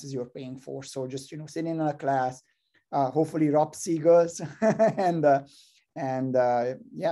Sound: laugh

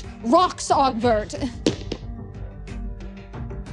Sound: last physics sound

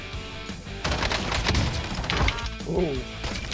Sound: gunshots

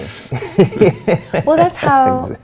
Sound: laughing

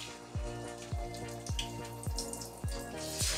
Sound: sizzling

